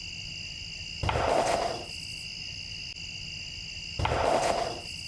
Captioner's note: wood thudding